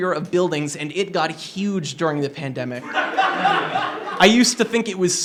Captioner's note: laughter